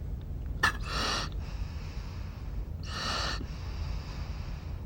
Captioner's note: breathes deeply